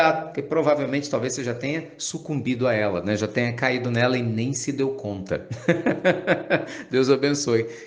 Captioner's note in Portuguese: risadas